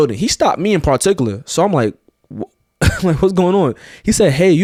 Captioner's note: chuckles